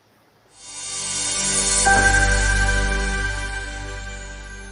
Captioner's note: air whooshing